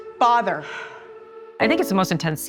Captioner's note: sighs